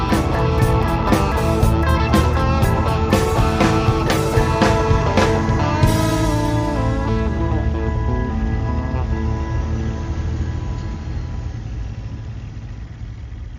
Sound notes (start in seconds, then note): 0.1 driving country rock music; 8.2 truck engine running